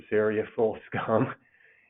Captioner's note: chuckles